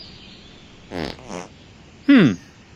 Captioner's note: farts